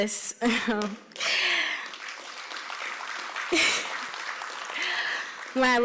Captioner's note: applause